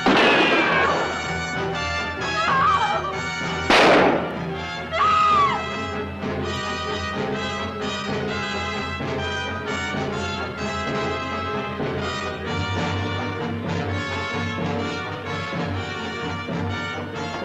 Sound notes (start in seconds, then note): 0.0 gunshot; 2.7 screaming